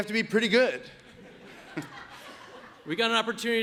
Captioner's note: audience laughs